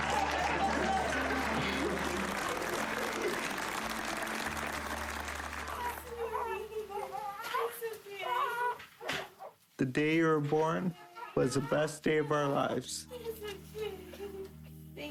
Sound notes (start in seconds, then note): 0.0 applause; 8.2 baby crying